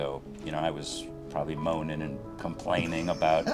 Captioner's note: laughs